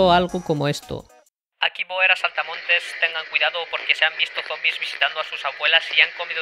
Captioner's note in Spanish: sonido de radio